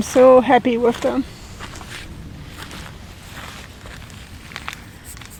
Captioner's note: footsteps in sand